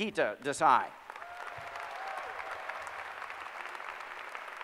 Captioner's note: applause